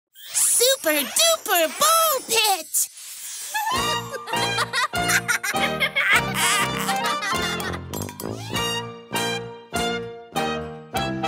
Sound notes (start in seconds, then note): 3.5 chuckling; 3.7 lively music